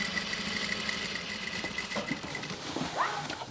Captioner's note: sewing machine rattling